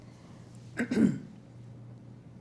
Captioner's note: clears throat